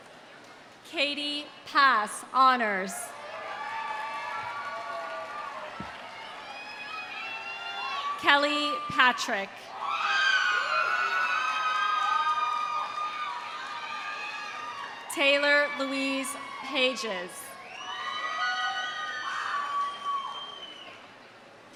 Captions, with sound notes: Kattey Pass, honors. (audience cheering) (audience applauding) Kelly Patrick. (audience cheering) (audience applauding) Taylor Louise Pages. (audience cheering)